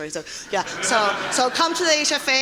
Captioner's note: audience laughing